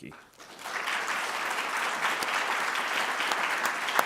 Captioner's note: audience applauding